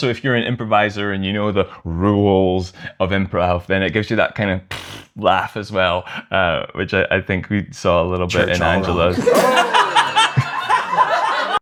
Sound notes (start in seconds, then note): 5.3 snorts; 8.4 laughter